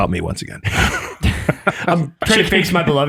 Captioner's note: group laughs